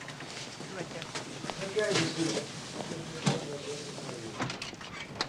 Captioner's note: people chattering in distance